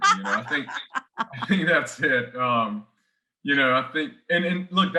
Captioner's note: chuckles